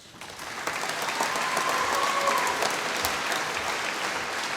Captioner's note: applause